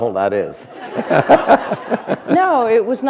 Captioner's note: laughter